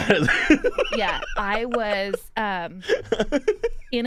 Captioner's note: laughs